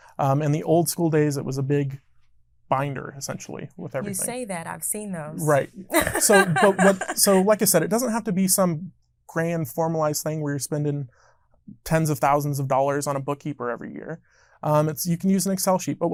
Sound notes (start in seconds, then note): 5.9 laughing